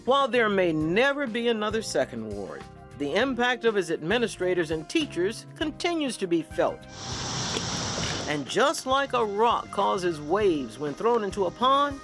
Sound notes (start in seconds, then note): 6.9 waves crashing; 6.9 water splashing